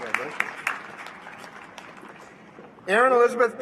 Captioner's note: applause